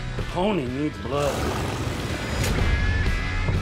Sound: snarling

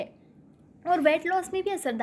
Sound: hindi

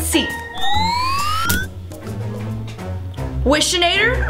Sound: machine whistles

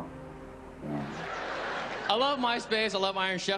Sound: crowd laughing

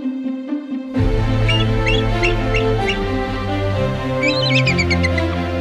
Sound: eagle screeches

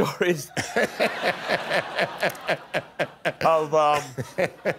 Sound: laughter

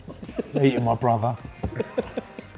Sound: laughing

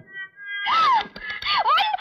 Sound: gasps; clapping

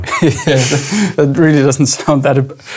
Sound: laughing

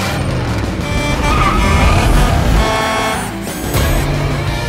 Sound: honking

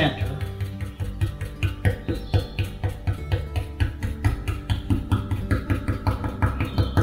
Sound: brush tapping; gentle guitar music

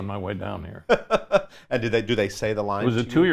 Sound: laughs

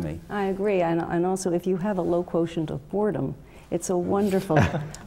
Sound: laugh

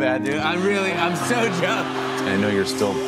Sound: laughing

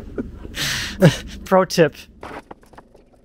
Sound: laughing

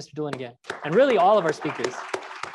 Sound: crowd applauds

